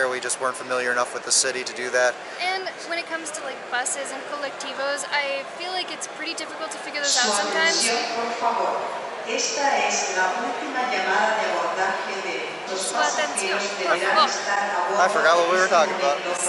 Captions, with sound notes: We just weren't familiar enough with the city to do that. - And when it comes to like buses and colectivos. I feel like it's pretty difficult to figure those out sometimes. (announcement on overhead speakers) - Su atención, por favor. - I forgot what we were talking about.